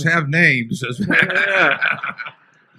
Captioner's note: laughter